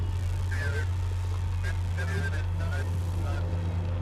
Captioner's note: static crackling